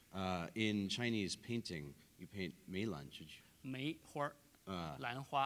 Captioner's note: speaking in Chinese; speaking in Chinese